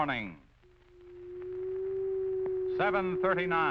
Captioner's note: high pitched ringing